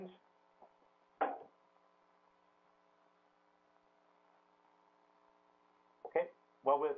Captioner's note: pause